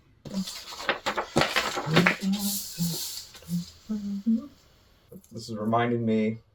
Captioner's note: humming